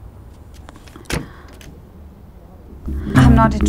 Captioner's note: Door opening